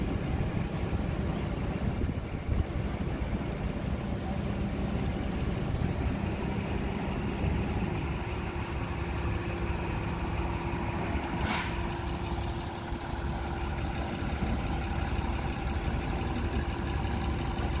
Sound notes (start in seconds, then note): 11.3 hydraulic hiss